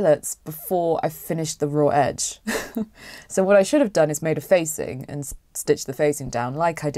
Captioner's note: laughs